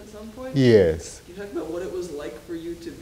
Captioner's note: woman's Voice